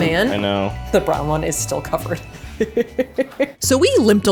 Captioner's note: laughing